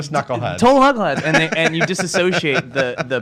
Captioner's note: laughs